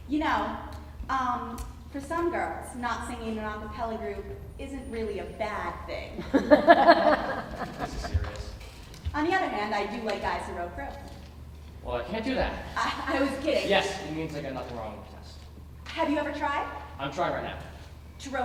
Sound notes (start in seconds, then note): 6.2 audience laughing